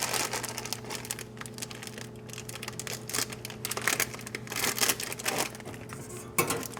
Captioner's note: packet crinkles